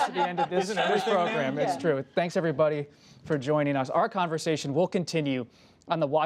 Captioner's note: laughter